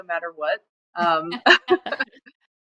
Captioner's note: laughter